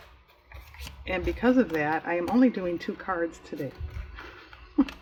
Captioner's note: laughs